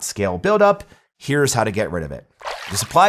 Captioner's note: graphics splash